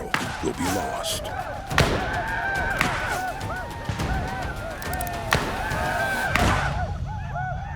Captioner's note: gunfire